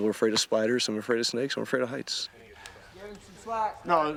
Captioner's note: voiceover